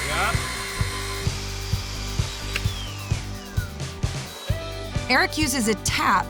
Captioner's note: buzzing sound